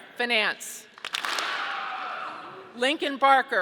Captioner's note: audience clapping